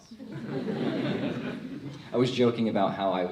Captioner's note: crowd laughs